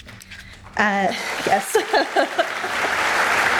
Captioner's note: laughs; audience laughs